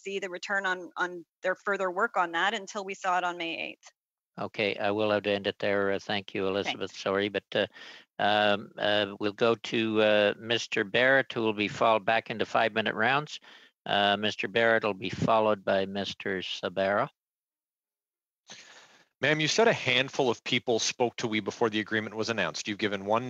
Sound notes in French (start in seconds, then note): 3.9 voix de l'interprète